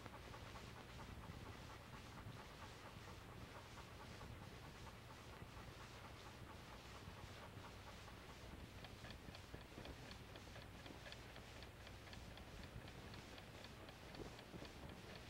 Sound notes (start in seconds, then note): 8.4 clock ticking